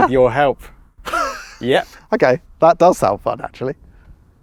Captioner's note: laughs